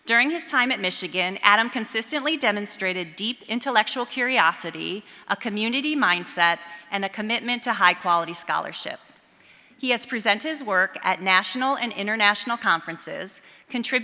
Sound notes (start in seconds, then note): none